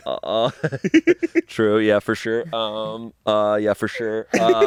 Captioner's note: laughs